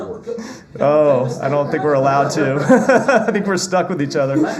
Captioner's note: laughter